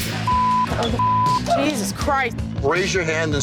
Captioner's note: beep